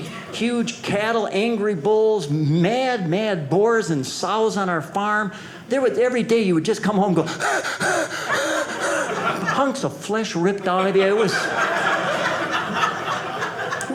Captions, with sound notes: huge cattle, angry bulls, mad, mad boars and sows on our farm. Every day you would just come home, and go, (heavy breathing) hunks of flesh ripped out of you. (audience laughing)